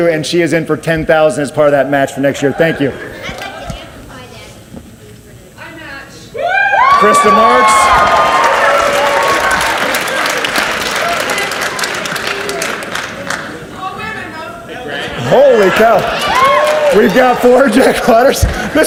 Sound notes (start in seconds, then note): 6.4 audience cheers; 8.5 audience cheers and applauds